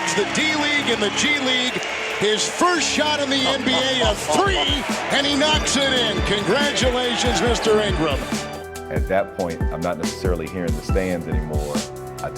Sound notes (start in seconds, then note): 3.4 commentator chuckling